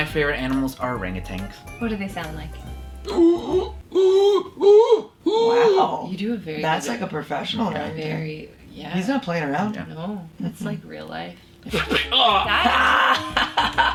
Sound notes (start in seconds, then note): 3.1 howling; 11.8 yells